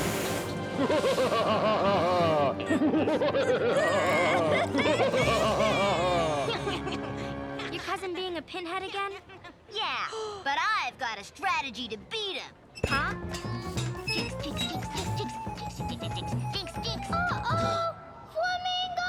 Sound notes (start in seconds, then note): 0.7 evil laughter; 3.4 child crying